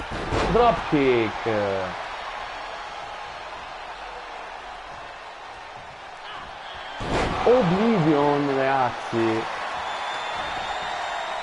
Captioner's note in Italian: Applauso